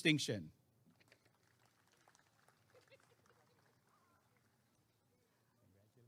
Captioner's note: applause and cheering